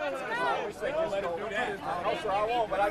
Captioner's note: indistinct shouting